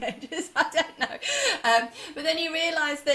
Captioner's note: laughing